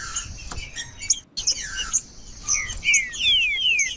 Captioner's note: trinca ferro cantando